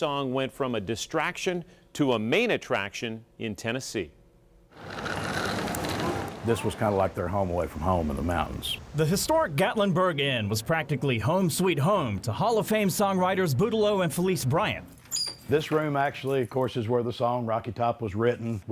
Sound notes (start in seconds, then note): 4.7 stroller wheels scraping; 15.0 squeak